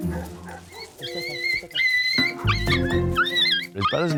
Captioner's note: puppy squealing